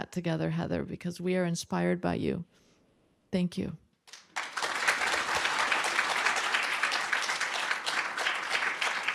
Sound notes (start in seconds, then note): 4.0 applause